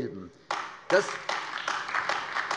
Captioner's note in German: Beifall AfD